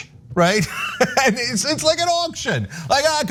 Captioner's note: laugh